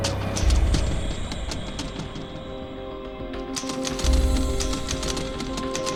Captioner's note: suspenseful music; typewriter tapping